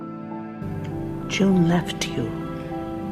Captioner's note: voiceover